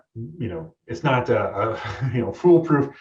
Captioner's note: chuckle